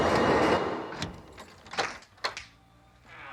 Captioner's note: lock disengaging